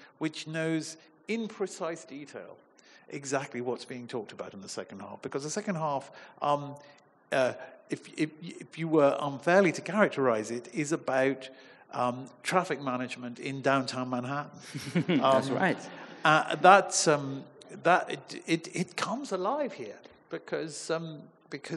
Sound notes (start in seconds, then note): 14.6 chuckling; 14.7 audience chuckling